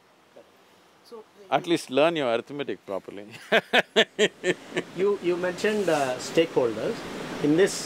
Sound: laughs

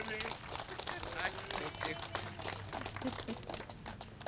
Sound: applause

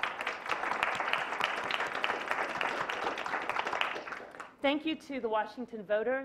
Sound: clapping

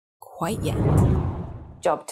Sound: wind blows

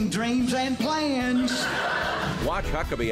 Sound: audience laughing

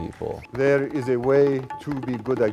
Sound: audience member whistling distantly

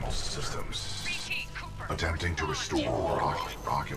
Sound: radio

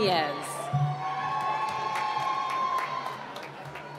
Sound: cheering

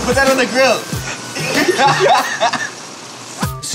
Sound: men laugh

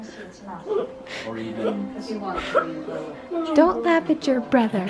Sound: laughing

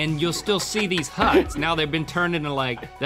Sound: laughing

